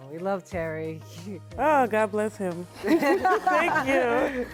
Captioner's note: laughing